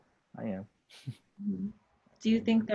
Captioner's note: chuckles